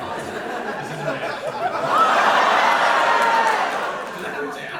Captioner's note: audience reaction